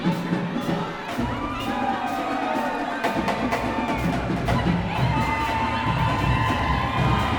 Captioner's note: band playing; crowd cheering